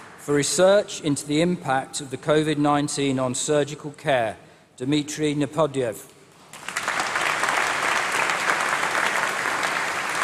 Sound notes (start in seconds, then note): 6.4 applause